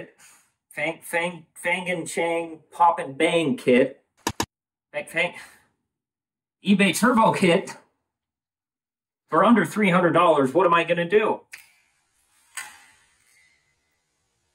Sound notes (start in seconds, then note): 4.2 slapslap